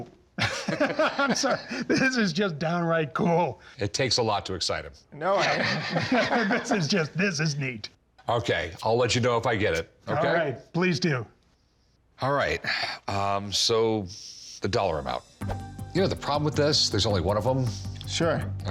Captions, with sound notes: [both laugh] This is just downright cool. It takes a lot to excite him. [laughs] This is neat. Okay. I'll let you know if I get it. -All right? -Okay, please do. All right, so, the dollar amount. You know the problem with this? There's only one of them. -Sure. -Okay?